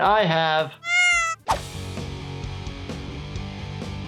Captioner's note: cat meows